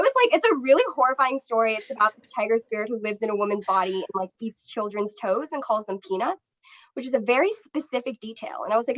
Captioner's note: laughter